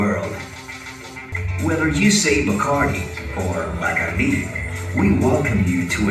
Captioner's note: Spanish